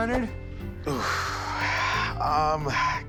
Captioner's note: sighs